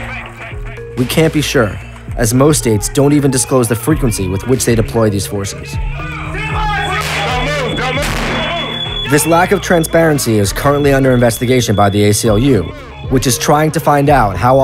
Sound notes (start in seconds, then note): 6.1 shouting; 6.9 gunshots